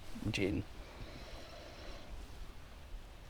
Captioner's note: breathing